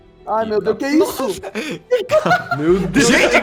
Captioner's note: laughs